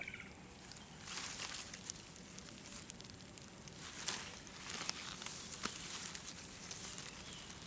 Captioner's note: bugs chirping